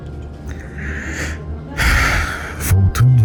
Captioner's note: sigh